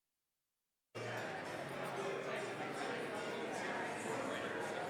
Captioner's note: people chatting